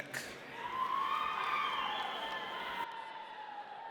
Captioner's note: audience cheers